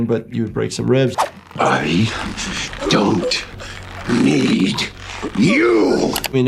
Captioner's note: victim choking